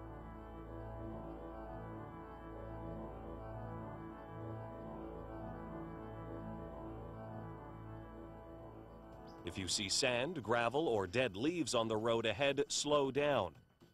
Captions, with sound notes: - [Voiceover] If see you see sand, gravel, or dead leaves on the road ahead, slow down.